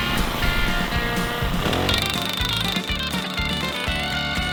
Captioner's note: drilling sounds